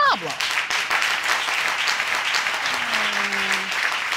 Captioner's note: applause